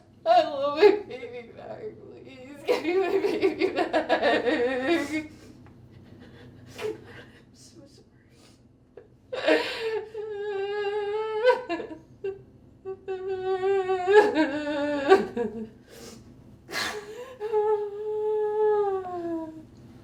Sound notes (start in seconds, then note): 9.2 sollozando